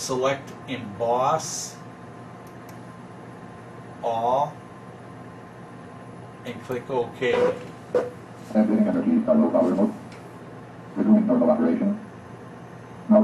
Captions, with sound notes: select Emboss All, and click Okay. (machine beeps) (machine voice mumbling)